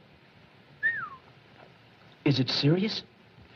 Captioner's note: whistles